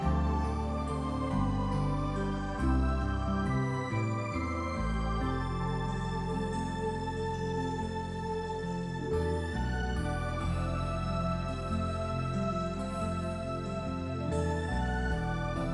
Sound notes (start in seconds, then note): none